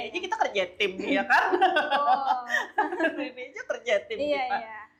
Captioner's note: laughs